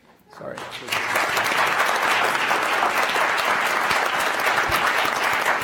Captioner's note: audience applauding